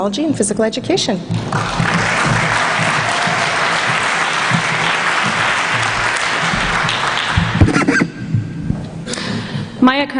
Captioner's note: applause